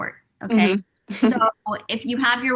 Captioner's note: laughs